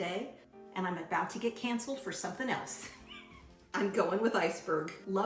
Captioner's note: laughs